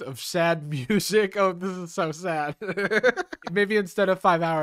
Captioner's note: laughs